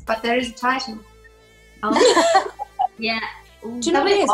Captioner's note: laughs